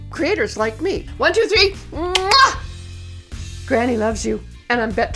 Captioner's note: blows kiss